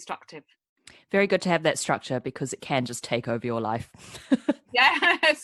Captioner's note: laughs